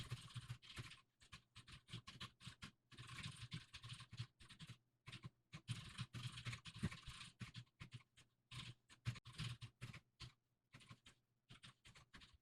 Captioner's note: typing sounds